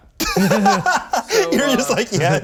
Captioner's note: laughing